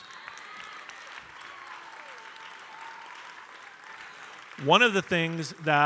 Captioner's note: audience cheering and applauding